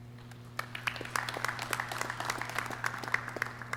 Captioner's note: clapping